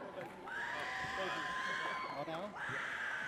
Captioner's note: audience cheers